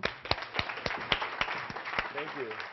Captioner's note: Applause; 掌聲